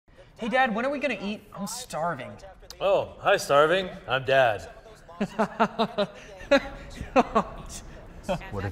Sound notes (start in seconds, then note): 4.4 incoherent television noise; 5.2 son laughing